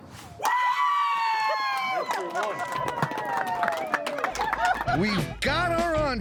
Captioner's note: cheering, clapping